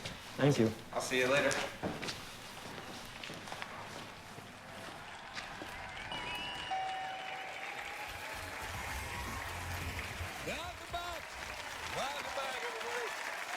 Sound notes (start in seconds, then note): 4.2 electronic chime; 4.9 applause